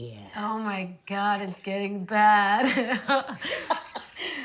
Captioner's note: laughing